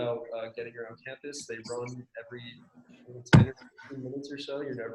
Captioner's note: murmurs